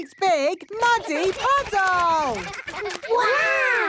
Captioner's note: splashing